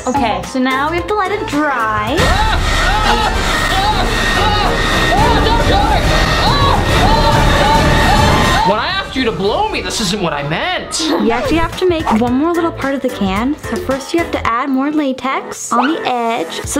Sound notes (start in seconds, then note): 2.3 shouts; 6.5 shouts